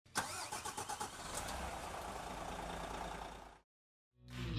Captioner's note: engine whirring